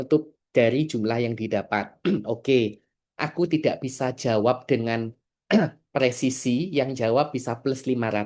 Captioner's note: berdehem